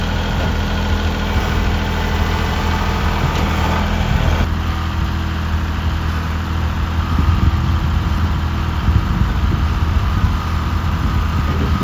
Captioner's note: engine revving